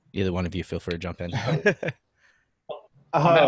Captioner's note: laughing